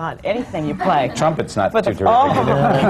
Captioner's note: laughter